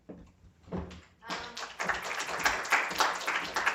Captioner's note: applause